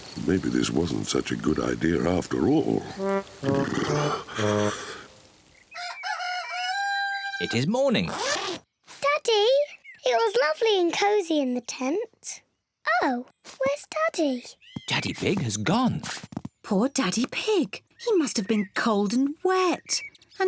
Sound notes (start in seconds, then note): 2.8 shivering; 5.7 cockerel crows